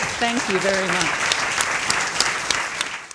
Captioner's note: applause